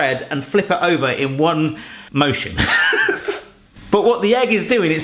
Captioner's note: laughs